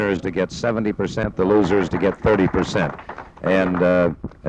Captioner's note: audience clapping